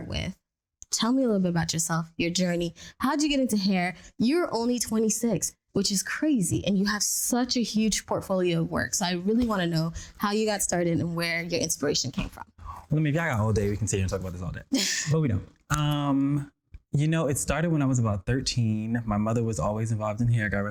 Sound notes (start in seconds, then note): 15.3 laughs